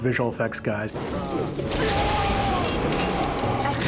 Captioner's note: both screaming